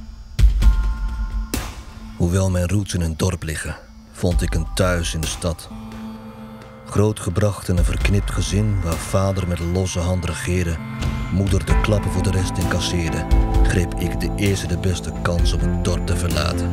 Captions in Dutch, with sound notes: [voice-over] Even though I was born in a small town, I found myself a home in the city Raised in a messed up family, where dad's loose hands were law, mother took the hits to protect the rest, I took the first chance to leave town